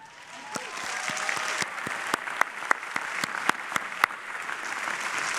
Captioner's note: audience applauding